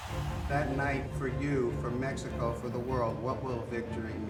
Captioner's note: Canelo speaks Spanish